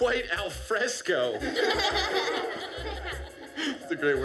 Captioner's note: laughter